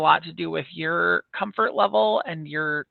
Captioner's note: none